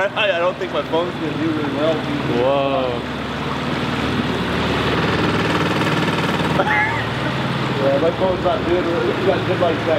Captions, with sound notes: I'll try, I don't think my phone is gonna do very well (indistinct chatters) (boat revving) (indistinct chatters)